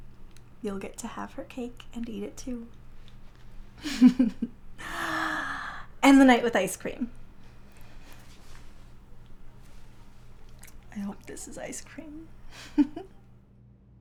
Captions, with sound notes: You'll get to have her cake, and eat it too. (laughs) (sighs) End the night with ice cream. I hope this is ice cream. (giggles)